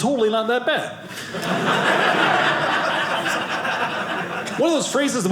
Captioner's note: audience laughing